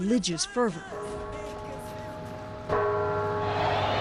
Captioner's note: bells tolling